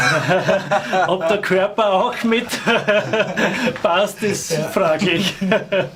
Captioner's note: laughing